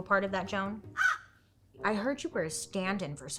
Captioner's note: crow cawing